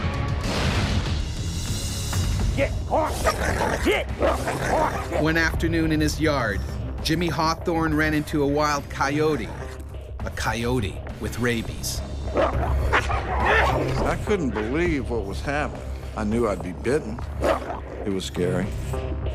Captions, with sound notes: - [Voiceover] Get off! Get off! - [Voiceover] One afternoon in his yard, Jimmy Hawthorne ran into a wild coyote. A coyote with rabies. (growling) - I couldn't believe what was happening. I knew I'd be bitten. It was scary.